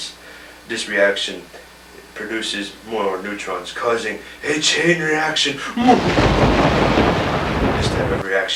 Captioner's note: ominous laugh